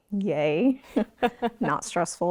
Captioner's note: host laughing